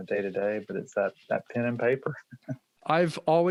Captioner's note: chuckles